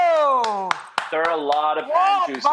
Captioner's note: clapping